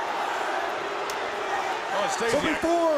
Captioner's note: crowd cheering; crowd chatter